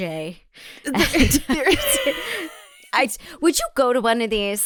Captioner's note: both laughs